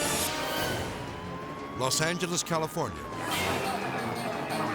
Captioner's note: siren wailing